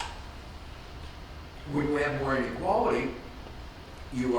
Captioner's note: none